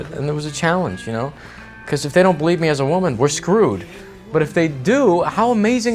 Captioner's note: none